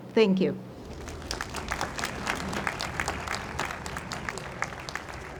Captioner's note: audience applauds